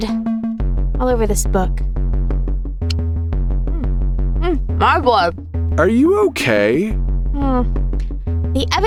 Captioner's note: tasting sounds